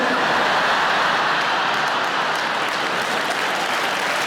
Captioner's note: audience laughing; audience clapping